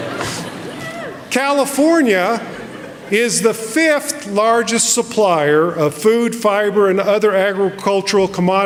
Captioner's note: laughter